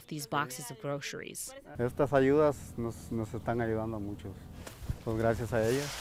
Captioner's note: speaking in foreign language